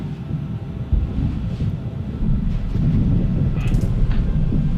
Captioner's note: war sounds